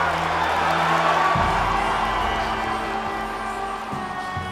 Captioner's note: applause